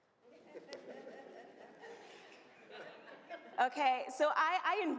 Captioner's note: audience laughs